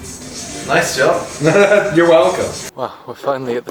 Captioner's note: laughs